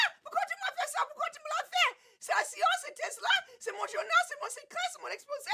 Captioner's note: Cassie screaming in French